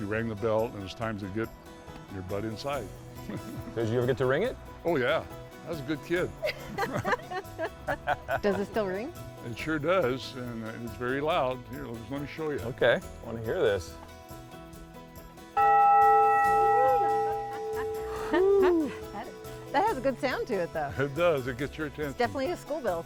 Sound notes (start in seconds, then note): 6.4 group laughs; 15.5 bell reverberates